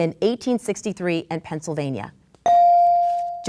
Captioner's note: bell dings